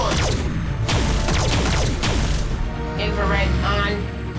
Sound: blasting

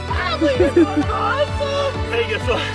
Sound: giggles

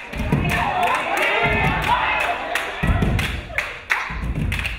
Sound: crowd cheering

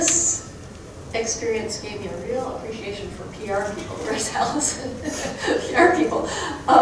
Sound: chuckling

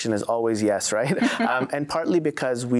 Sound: laugh

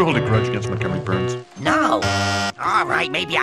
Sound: bzzz

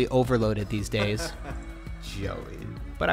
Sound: laughs

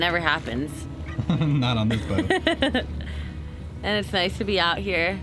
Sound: laughing

